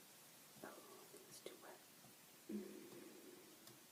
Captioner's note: whispered